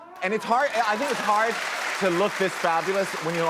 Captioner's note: audience applauds